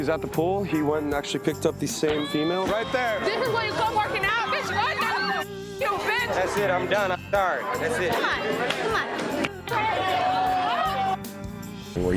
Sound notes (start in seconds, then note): 4.9 girl squeals; 9.6 crowd yelling